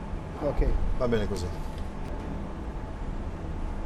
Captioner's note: speaking Italian